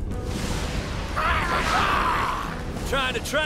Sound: screeching

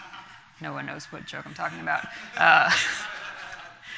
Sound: laughter from audience; laughs

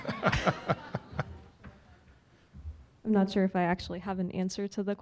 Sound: laugh

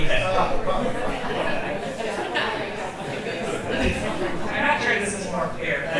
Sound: audience chattering

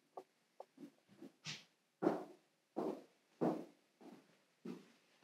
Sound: footsteps approaching

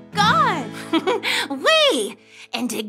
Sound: giggles

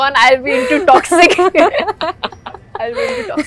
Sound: laughs

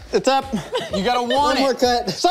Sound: laughs

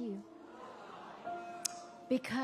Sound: audience exclaiming

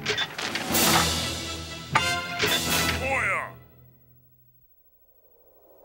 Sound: speaks foreign language

